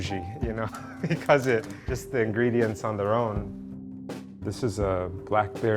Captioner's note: laughter